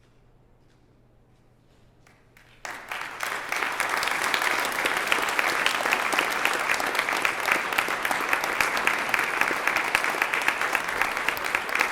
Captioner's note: applause